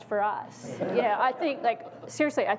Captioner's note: audience laughs